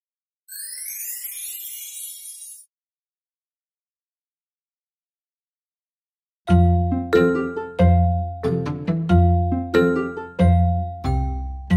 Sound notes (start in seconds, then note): 0.5 star tinkling